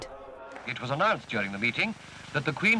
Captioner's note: radio Announcer